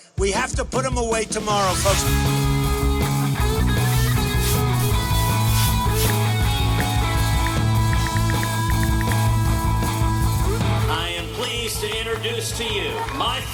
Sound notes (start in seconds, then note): 2.7 rock music; 3.9 brush scraping; 7.0 ticking